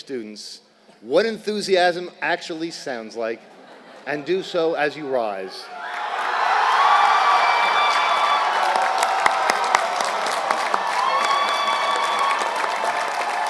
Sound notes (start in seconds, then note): 3.5 laugh; 5.8 applause